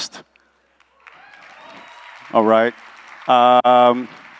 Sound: applause

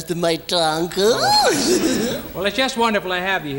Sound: laughs

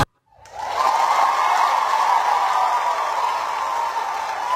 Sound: crowd cheering

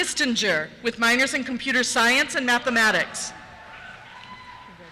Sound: cheers

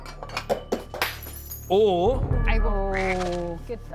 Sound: clinking

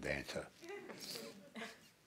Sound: laughter

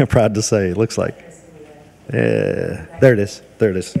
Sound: speaking faintly

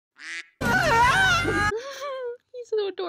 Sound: quack; scream

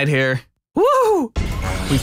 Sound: nervous voice

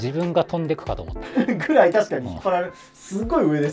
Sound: laughing

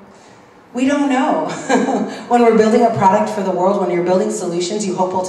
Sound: laugh

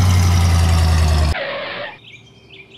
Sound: racing motor; skid; birds chirping

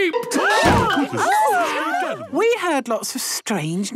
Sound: all gasping

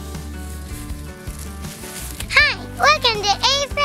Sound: happy music; rustling

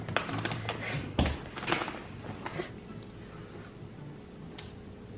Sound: small thud noise

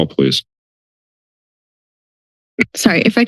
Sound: silence

